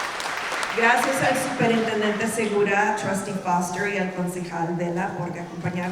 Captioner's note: speaking in Spanish